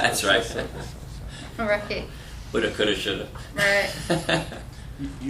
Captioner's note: laughter; laughter